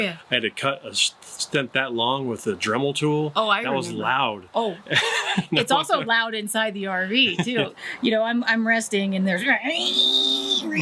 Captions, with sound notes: - I had to cut a stent that long with a Dremel tool. - Oh, I remember that. - That was loud. - Oh, it's also loud inside the RV too, you know. I'm resting and there's (makes drilling noise),